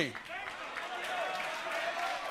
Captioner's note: cheers and applause